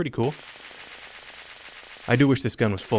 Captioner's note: rapid shots